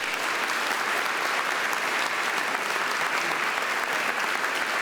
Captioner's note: audience applauding